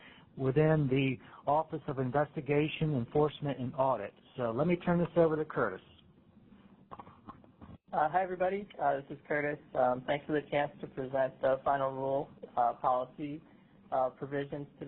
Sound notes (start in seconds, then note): 8.1 voiceover